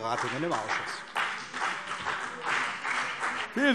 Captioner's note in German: Beifall CDU und BÜNDNIS 90/DIE GRÜNEN